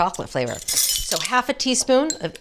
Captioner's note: spoons rattling